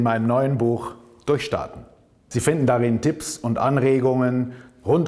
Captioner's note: German